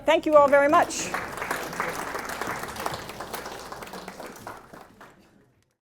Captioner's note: audience applauding